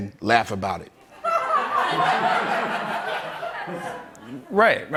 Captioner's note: laughter